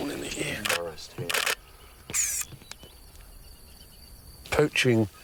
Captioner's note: camera clicks